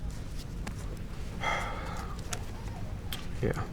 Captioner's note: sighs